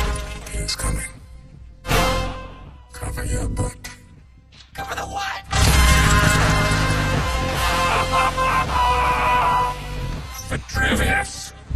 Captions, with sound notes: He is coming. Cover your butt. Cover the what? [KNIGHTS YELL] [LAUGHS] Vitruvius.